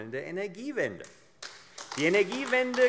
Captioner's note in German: Beifall AfD